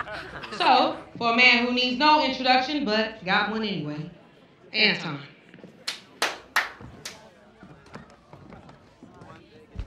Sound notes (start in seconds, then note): 6.2 one person claps, stops